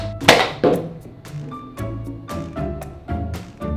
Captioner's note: shoots Nerf gun